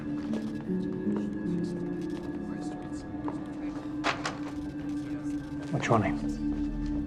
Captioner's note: cash register clacking; people chattering